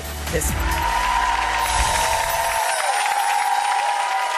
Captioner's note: applause